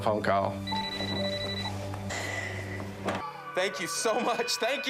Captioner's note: phone ringing